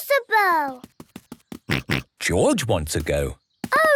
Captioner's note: snorts